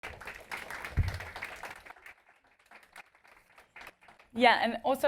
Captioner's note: applause